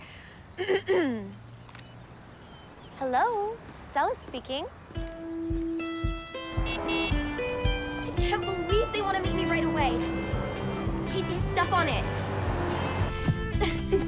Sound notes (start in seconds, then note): 6.4 horn beeps